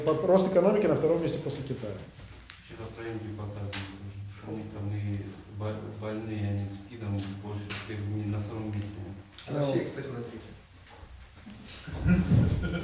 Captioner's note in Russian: смех в зал